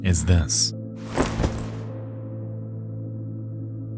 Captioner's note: photo rustles